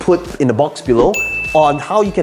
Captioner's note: air whooshing; bell ringing